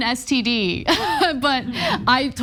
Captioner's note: laugh